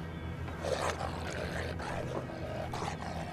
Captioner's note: electronic dog alarm growling